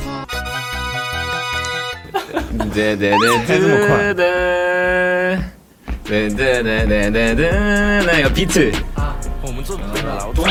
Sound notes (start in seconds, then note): 4.3 hums